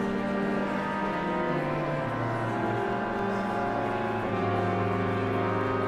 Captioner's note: somber organ music continues; audience chattering continues